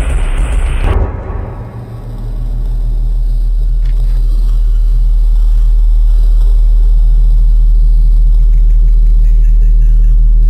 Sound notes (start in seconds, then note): 0.0 bang; 3.8 click